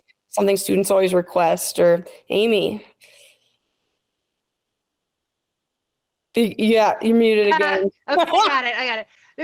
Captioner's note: laughs